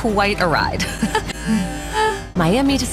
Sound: laughs

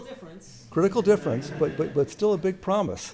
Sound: laughter

